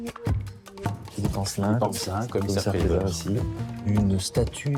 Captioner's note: speaking French